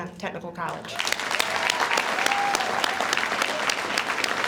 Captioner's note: audience applauds